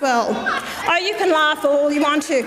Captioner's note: audience member laughs